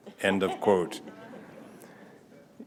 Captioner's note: laughter